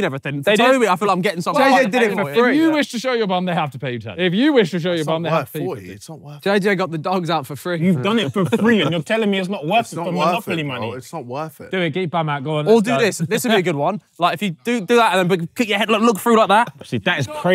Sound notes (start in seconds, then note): 7.8 laughing